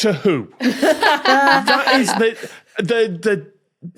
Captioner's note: laugh